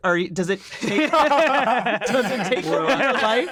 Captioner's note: group laughing